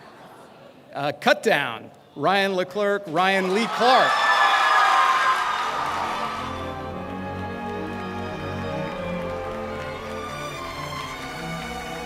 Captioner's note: applause